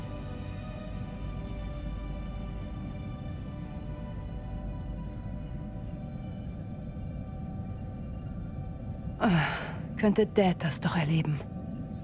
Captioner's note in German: seufzt